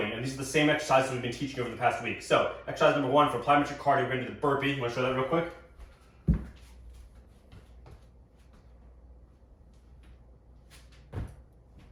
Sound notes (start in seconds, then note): 5.8 feet thudding